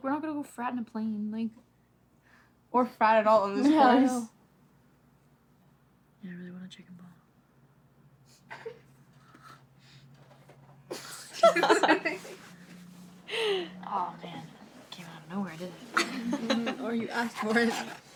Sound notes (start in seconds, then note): 8.7 laughter; 15.9 laughter